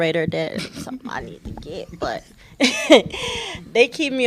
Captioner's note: laughter